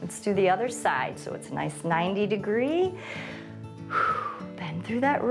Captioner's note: inhales and exhales